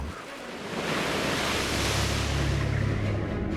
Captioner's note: water splashing